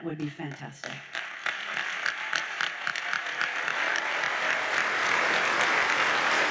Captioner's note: audience cheers and applauds